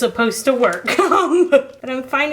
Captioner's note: laughs